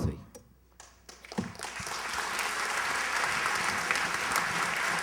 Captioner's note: applause